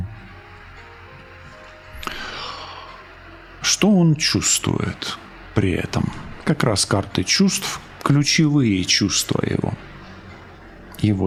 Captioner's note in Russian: вздыхает